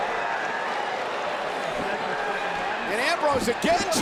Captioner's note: crowd murmuring